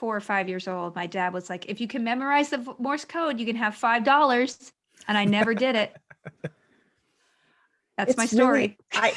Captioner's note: laughter